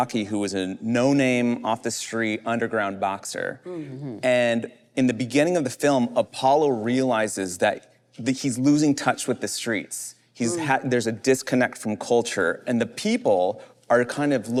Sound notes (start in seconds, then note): none